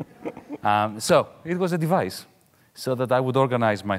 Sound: audience laughing mildly

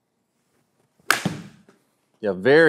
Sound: golf ball cracks

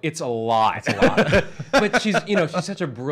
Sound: Erich laughs

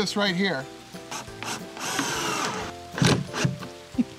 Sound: drilling; chuckles

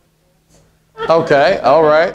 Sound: laughing

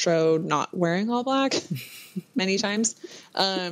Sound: laughter

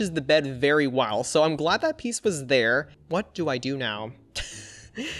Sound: chuckles

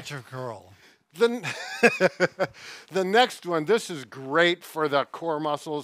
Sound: laughs

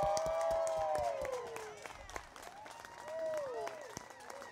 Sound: audience applauding

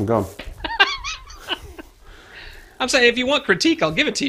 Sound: laughing

